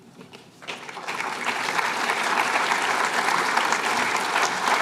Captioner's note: applause